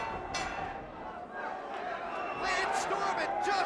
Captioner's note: bell rings